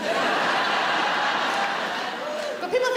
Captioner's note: audience laughs